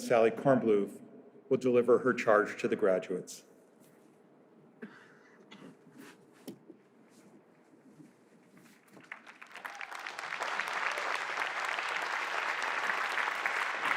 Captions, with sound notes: Sally Kornbluth will deliver her charge to the graduates. [APPLAUSE]